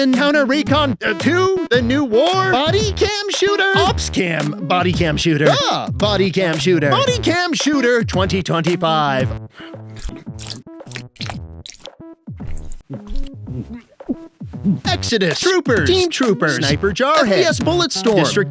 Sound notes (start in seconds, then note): 9.4 repeated squelching; 13.0 gagging